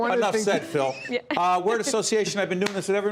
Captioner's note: laughter